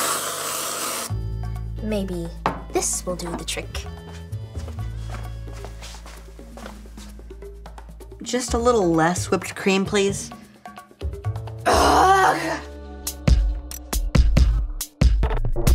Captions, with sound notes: - Maybe this will do the trick. - Just a little less whipped cream, please. (Dot groans) (funky music)